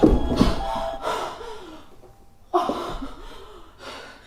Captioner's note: Leona pants